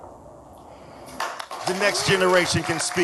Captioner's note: audience applauds